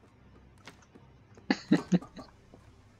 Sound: laughs

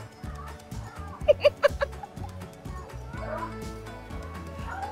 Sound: laughs

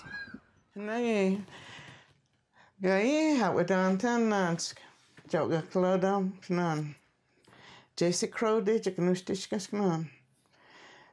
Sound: speaking Cherokee with a man speaking Cherokee off-camera

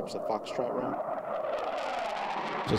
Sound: high-pitched sound of jet engine

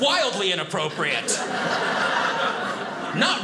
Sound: audience laughing

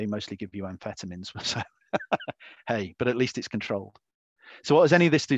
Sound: laughs

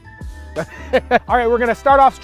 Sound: laughs

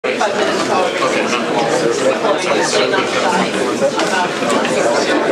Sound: background chatter

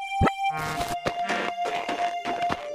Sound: footsteps

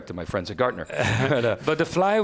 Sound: laughs

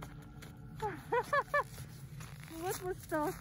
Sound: laugh

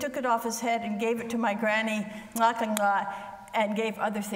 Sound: speaks foreign language

